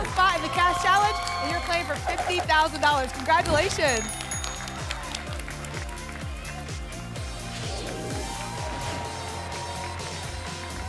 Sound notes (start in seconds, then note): 3.6 ding, ding, ding; 5.2 applause and cheering cont; 7.4 whoosh